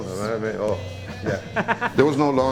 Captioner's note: man laughing